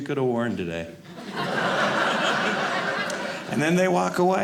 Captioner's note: audience laughing